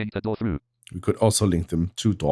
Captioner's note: automated voice